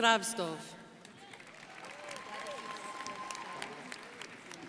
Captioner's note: crowd applauding